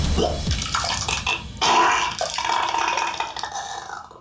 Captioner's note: vomiting